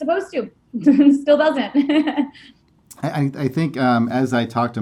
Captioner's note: laughing